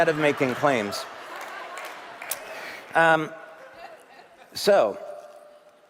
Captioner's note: เสียงปรบมือ